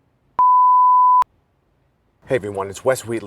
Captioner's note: tone beeps